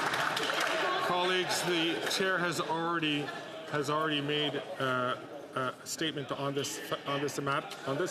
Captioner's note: some Applause